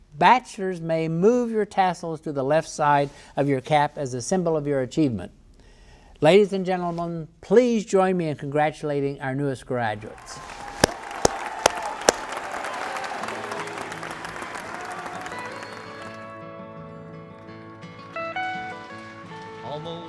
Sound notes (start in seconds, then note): 10.1 audience cheering; 10.1 audience applauding; 15.0 bright uptempo music